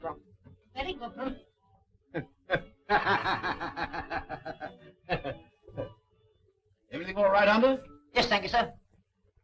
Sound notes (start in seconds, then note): 2.1 laughing